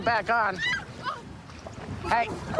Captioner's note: screaming